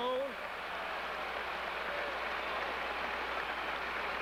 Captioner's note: applause